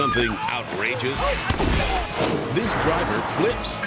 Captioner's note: person thuds